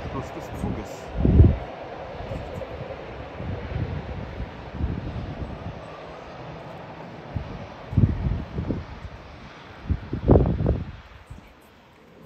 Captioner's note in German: Wagen-Geräusche